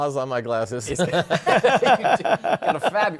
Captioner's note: laughter